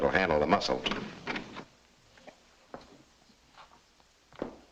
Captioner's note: door clicks open